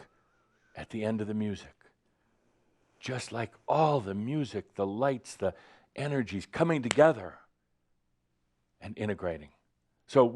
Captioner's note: clap!